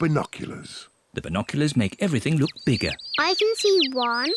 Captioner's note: chirping